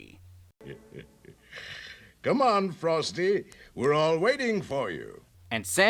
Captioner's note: chuckles